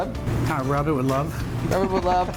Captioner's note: laughs